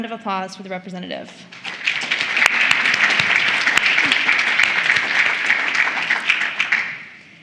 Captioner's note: applause